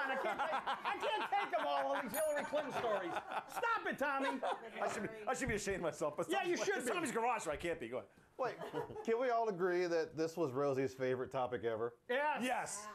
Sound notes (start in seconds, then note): 2.0 bell Rings